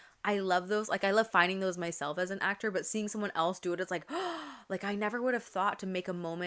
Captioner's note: gasp